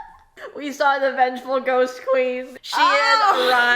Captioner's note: laughs